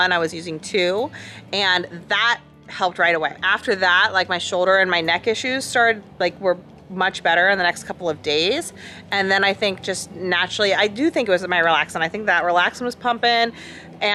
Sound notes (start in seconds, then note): none